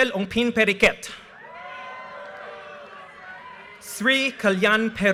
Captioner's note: audience cheers and applause